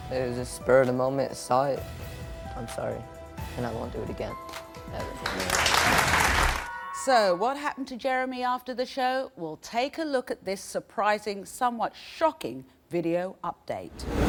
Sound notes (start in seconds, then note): 5.0 audience applauds